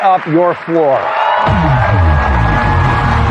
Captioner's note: cheering and applause